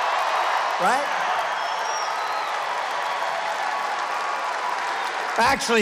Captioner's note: applause